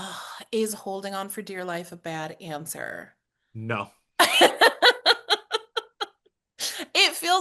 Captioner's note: laughs